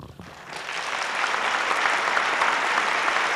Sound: applause

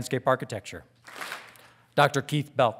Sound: audience claps

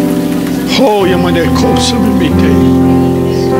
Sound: speaking in tongues

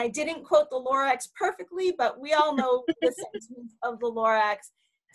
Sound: faintly speaking

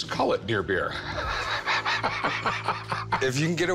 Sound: laughter

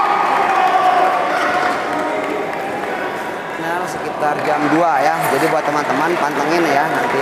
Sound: applause

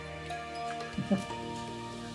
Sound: laughs

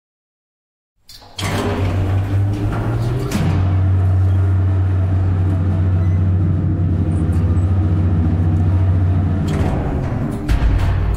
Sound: sound of lift

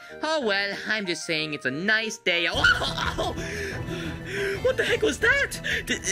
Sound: yelling

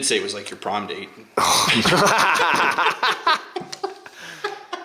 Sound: laughs

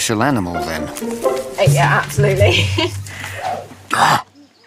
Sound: laughs

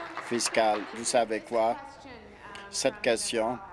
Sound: applause

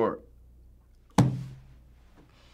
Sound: slamming table

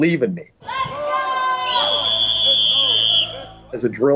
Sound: whistle blowing

